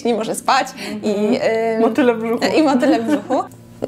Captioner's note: laugh